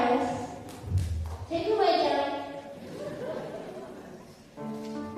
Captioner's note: laughter; starts to play the piano